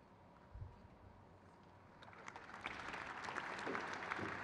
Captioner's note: crowd cheers